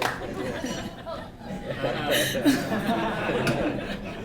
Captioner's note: laughter